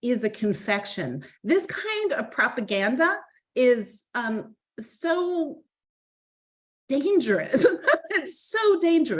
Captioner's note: laughing